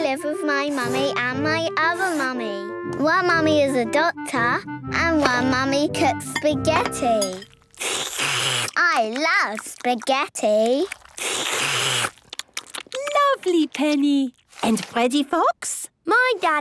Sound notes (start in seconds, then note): 7.8 slurping; 11.4 all slurping